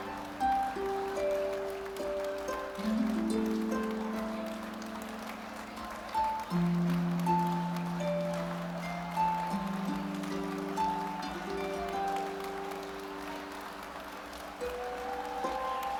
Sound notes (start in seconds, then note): 3.3 audience applauding; 3.3 gentle music